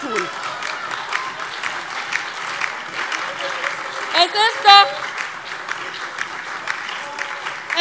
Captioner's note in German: Heiterkeit und Beifall DIE LINKE, BÜNDNIS 90/DIE GRÜNEN und SPD